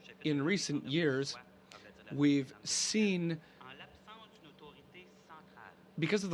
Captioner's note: speaking French